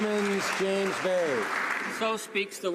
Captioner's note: some Applause